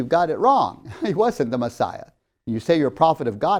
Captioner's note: laughs